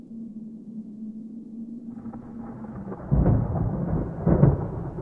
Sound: thunder Rumbling

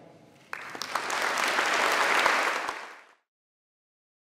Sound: audience clapping

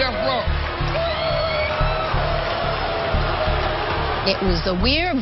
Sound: booing

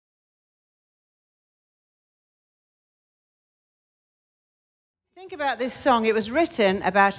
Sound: silence

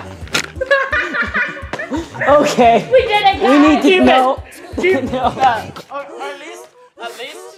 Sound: laughter

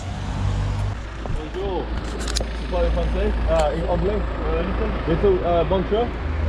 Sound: speaking in a foreign language

